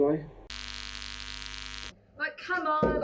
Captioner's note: electric buzzing